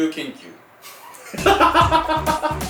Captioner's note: laughs